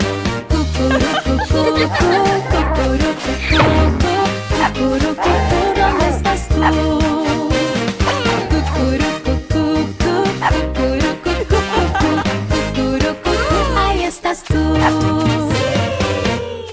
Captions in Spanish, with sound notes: (Risas) Cucurru cucú Cucurru cucú Cucurru ¿Dónde estas tú? (Ladrido) Cucurru cucú Cucurru cucú Cucurru ahí estas tú (Ladrido)